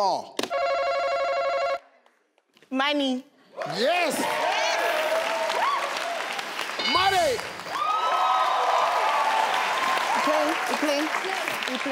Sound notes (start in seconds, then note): 0.5 buzzer beeping; 3.6 crowd cheering; 3.6 crowd clapping; 7.9 crowd cheering; 7.9 crowd clapping